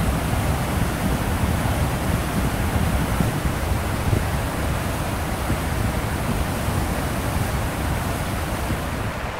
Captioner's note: waterfall sound